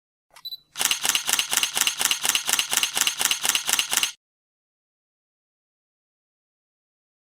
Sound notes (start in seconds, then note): 0.3 camera beeps; 0.7 camera shutter clicking